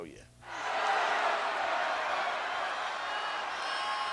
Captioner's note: crowd yelling